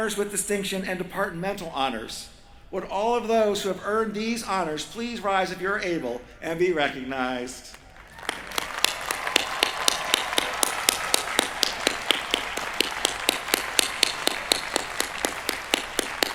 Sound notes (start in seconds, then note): 7.9 cheering